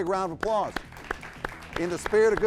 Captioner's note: audience applauding